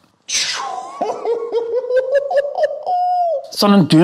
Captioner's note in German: Tiergeräusche